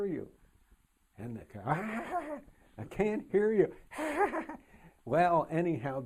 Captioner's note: laughing